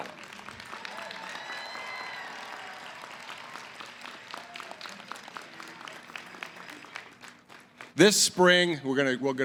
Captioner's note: cheering & applause